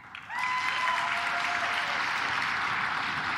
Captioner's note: claps